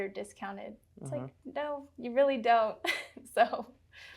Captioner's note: chuckles